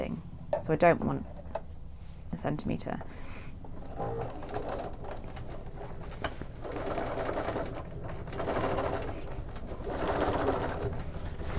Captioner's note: machine stitching